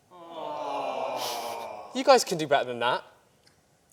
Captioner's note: aww